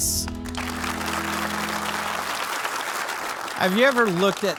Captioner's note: audience applauding